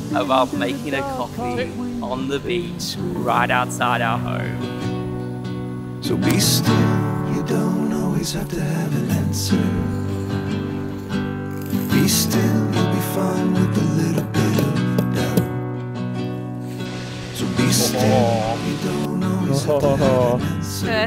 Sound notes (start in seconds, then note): 5.1 folk music continues; 11.5 milk whirring; 14.0 tapping jug on stone; 19.4 groaning happily